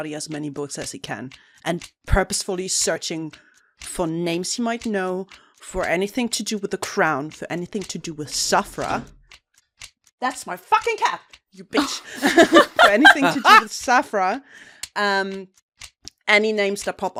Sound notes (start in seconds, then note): 8.9 thunk from the distance; 11.8 laughter